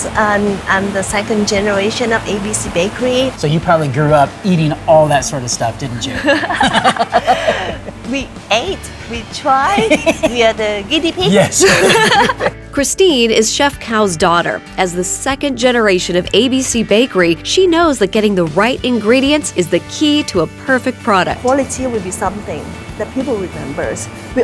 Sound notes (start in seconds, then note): 6.0 laughing; 10.7 laughing